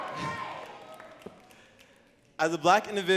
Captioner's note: audience cheering